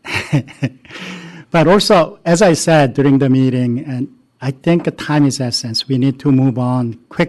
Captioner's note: laughter